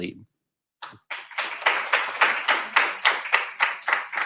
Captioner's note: applause